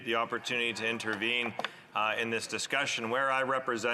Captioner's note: speaking in French